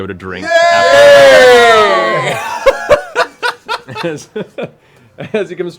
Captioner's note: cheering